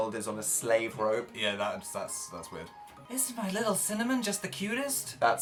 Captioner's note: creepy soft voice